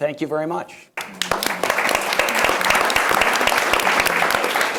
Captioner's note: audience applauds